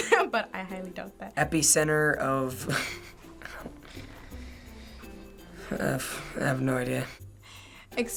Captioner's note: chuckles